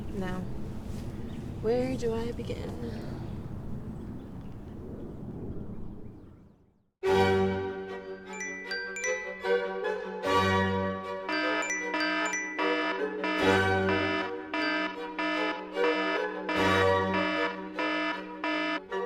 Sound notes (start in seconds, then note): 7.0 peaceful phone alarm; 11.2 deafening phone alarm